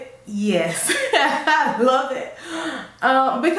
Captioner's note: laugh